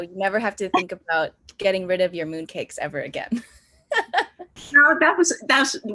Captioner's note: laughs